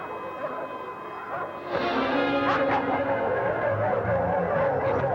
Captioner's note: dogs barking